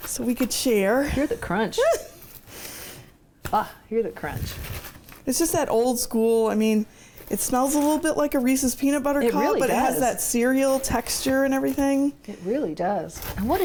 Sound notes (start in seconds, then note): 1.7 chortles